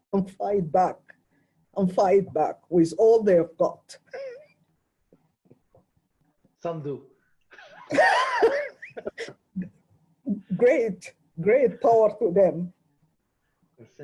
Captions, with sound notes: and fight back and fight back with all they have got. - Some do. (laughing) - Great, great power to them.